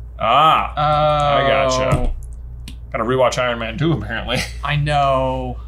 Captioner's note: chuckles